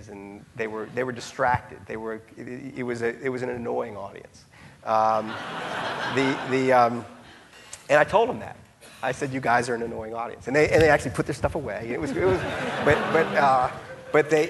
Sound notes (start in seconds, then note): 5.2 audience laughing